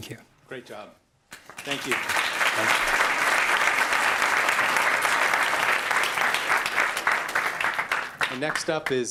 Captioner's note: applause